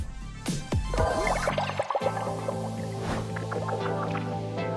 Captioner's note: liquid bubbling